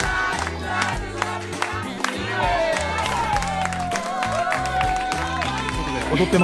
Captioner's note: applause